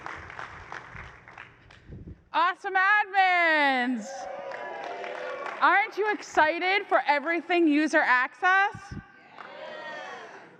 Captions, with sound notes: Awesome admins! [CHEERING] Aren't you excited for everything user access? Yeah.